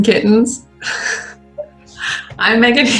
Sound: laughter

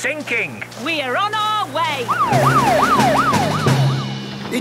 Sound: siren wailing

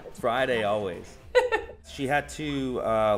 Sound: laughs

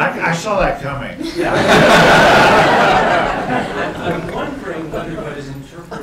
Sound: laughter

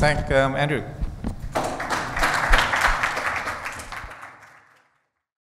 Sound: audience clapping

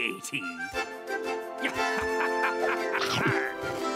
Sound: laughing

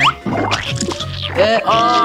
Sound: squelching

